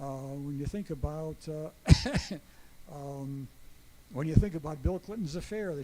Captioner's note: chuckles